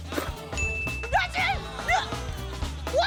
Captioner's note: ding!